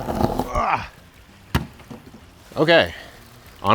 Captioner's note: groans